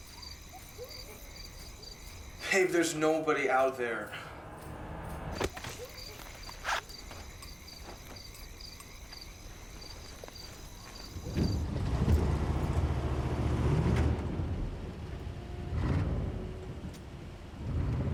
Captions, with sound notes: [distant whooping] HEY, THERE'S NOBODY OUT THERE. [thud] [zipper zips]